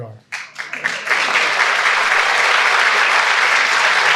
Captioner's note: audience clapping